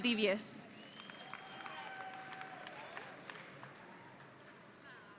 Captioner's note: audience applauding